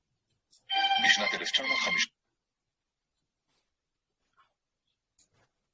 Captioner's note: speaking in a foreign language